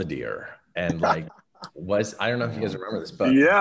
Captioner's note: laughing